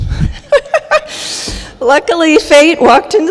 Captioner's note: laughing